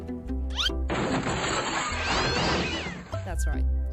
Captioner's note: old table flip, crashing